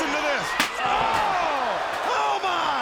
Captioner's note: chair thuds